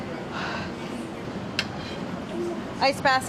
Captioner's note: sighs